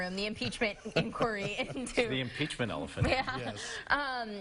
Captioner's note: laughing